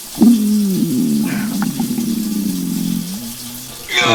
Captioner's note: stomach gurgling; Henrietta groaning; fart ripping